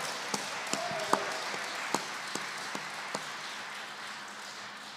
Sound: applause

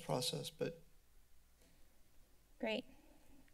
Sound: silence

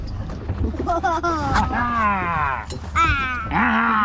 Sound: laughs; playfully roars

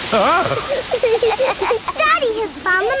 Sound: laughing

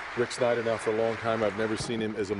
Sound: applause

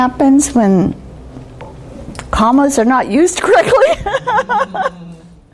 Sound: laughing

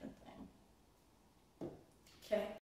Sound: pen taps on table

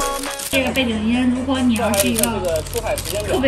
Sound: fire

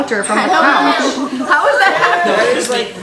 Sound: laughing

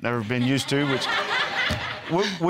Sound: all laughing

